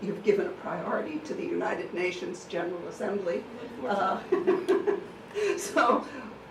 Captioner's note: laughing